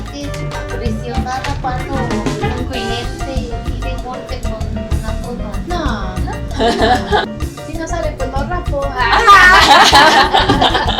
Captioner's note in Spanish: risas